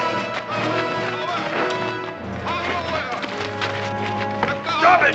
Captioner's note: shouting in native language